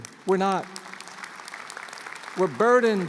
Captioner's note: applause